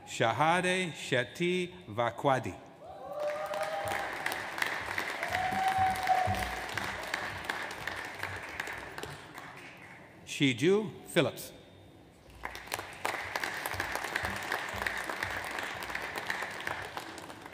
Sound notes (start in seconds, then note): 3.1 audience applauds; 12.2 audience applauds